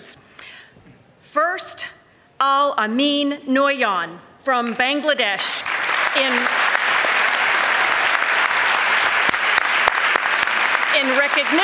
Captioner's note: applause